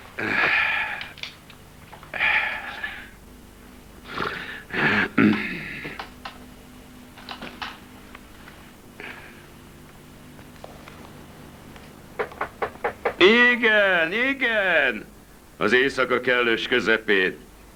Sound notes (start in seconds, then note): 12.1 knocking continues